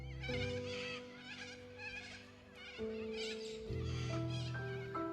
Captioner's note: birds chirping; gentle music